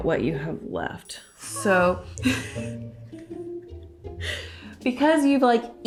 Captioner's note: both chuckling